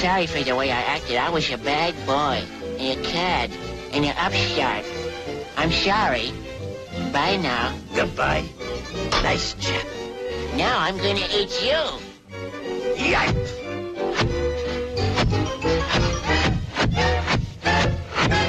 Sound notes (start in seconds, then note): 13.2 hatchet chopping; 15.7 lively music